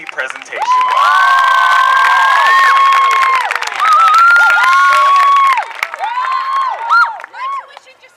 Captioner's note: cheering